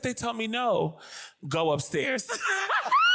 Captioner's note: screams